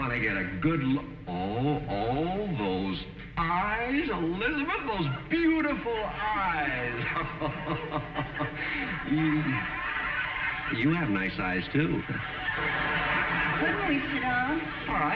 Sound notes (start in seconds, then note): 8.6 audience snickering; 8.6 chuckling